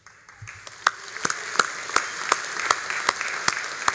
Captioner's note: all applauding